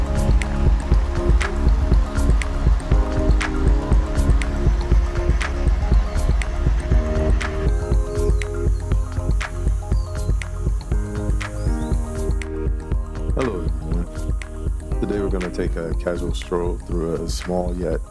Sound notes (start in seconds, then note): 12.5 birds chirping; 12.5 cicadas buzzing